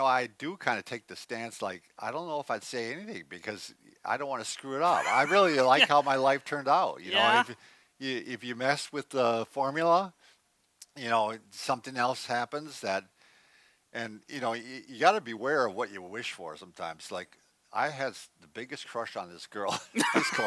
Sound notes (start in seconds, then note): 4.8 laughs; 19.8 laughs